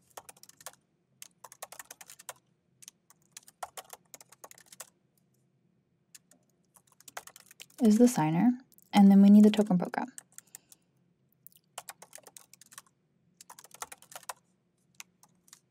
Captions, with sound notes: is the signer. And then we need the token_program. (keyboard clacking)